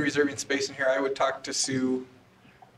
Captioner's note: off microphone